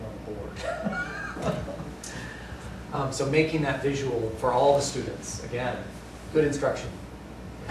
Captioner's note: laughter